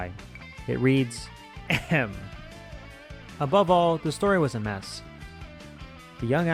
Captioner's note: ahem